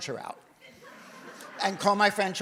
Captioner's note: audience laughs